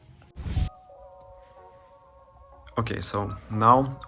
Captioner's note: air whooshes